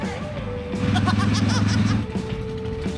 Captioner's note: laugh